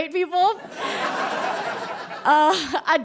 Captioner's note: audience laughs heartily